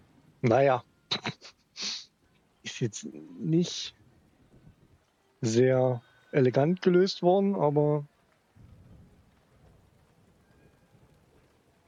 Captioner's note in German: gelächter; schnauben